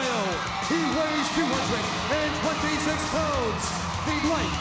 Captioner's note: fireworks booming